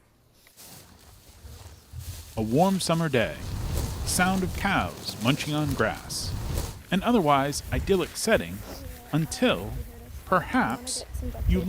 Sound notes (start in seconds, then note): 0.8 grass rustles